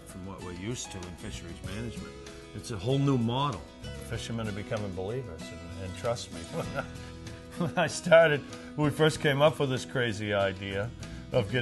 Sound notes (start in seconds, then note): 6.3 giggles